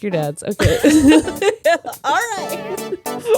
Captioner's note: laughing